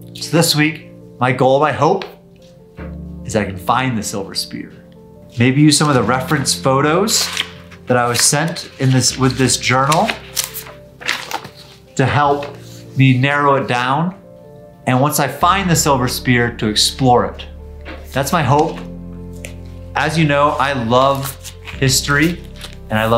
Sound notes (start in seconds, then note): 10.5 papers rustling